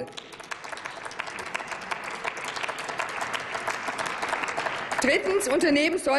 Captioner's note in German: Applaus